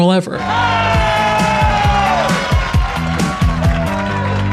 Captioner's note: audience cheering; upbeat music